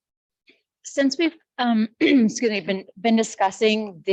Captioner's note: clears throat